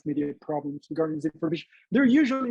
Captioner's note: mumbles